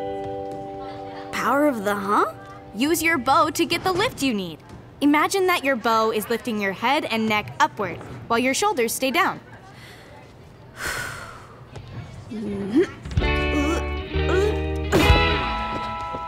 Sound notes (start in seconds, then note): 10.7 Joss inhales deeply; 13.3 dramatic music